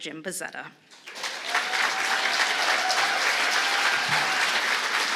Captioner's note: applause